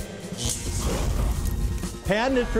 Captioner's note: fire crackling